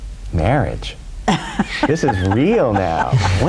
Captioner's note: chuckling